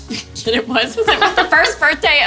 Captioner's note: laughing